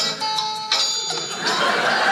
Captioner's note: bell dings; audience laughing